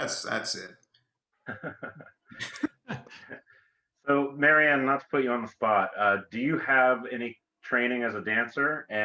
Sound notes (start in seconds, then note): 1.4 participants chuckle